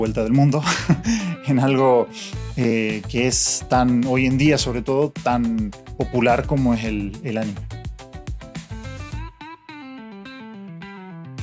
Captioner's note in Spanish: risas